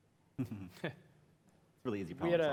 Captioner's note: laughter